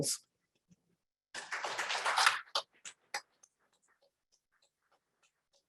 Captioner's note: applause